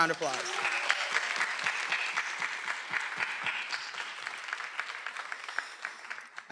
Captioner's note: everyone applauding; attendees cheering